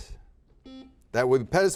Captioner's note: buzzer buzzes